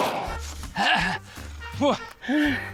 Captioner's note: grunts, pants; breathes heavily